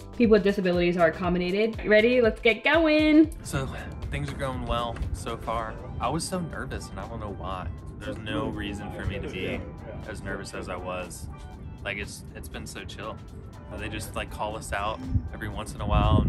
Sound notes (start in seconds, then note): none